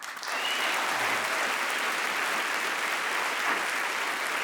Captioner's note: audience applauding